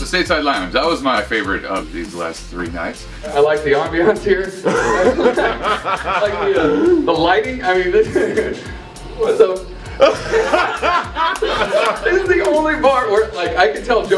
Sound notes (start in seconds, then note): 4.6 laughter; 9.9 laughter